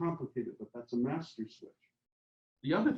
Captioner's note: faintly speaking